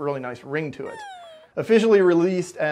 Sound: dog whines

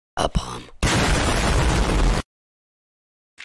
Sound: bomb noises

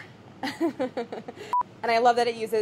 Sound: laughing

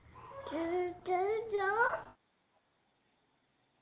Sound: child babbling

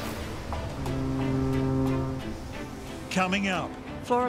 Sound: high intensity orchestral music; foghorn bellows

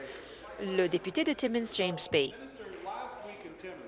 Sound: applause

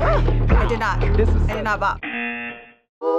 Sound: buzzer

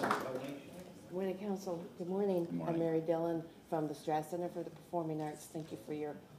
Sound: applause

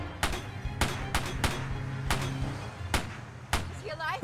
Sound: gunfire

